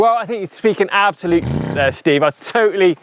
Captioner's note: engine rev